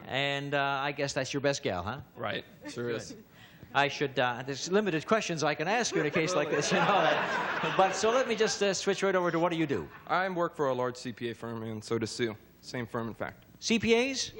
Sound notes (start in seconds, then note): 5.8 laughter